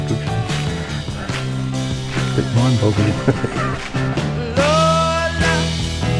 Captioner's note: giggling